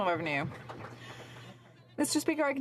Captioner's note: some Applause